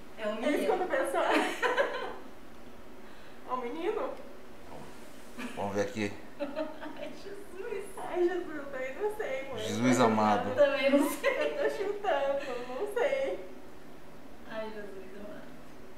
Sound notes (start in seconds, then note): 6.4 laughs